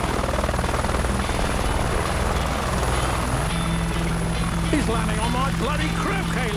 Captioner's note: helicopter engine whirring; upbeat music